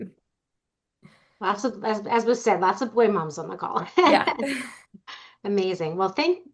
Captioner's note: laughs